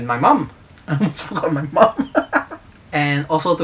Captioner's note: nervous laugh, sorry mom